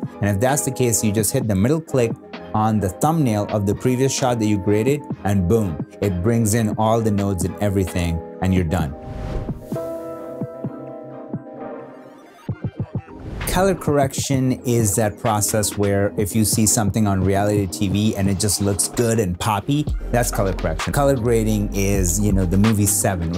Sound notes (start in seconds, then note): 9.0 whoosh sound; 10.2 gentle beats